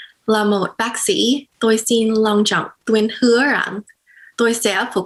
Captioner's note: speaks in foreign language